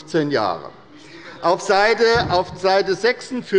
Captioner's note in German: Heiterkeit bei der SPD